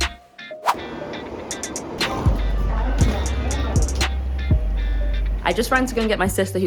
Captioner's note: train engine roaring gently